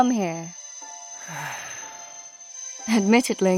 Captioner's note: sigh